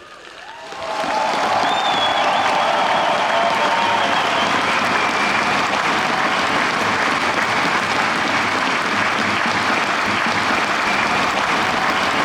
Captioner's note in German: Jubel, Applaus und Trillerpfeifen